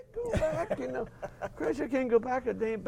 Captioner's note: laugh